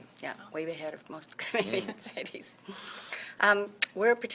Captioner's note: laughs